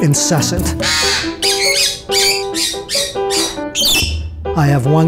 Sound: birds chirping

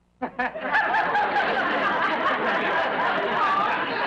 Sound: audience laughs

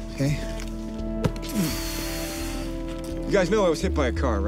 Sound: exhales sharply

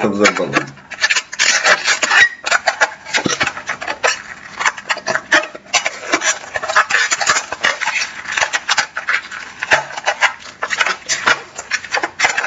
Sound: balloon squeaking

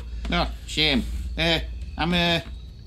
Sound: insects chirping

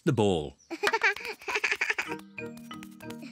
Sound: laughs

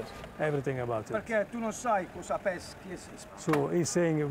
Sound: speaking Italian

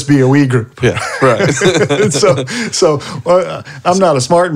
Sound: laughing

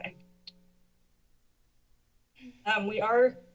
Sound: pause

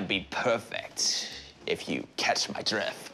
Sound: grunts

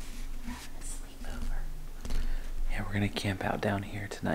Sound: whispering

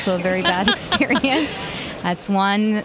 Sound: laughter

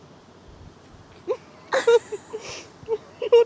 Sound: laugh

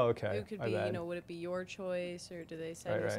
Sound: voiceover

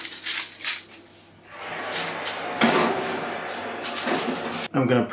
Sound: oven roar

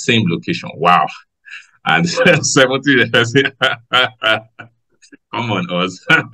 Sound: laughs

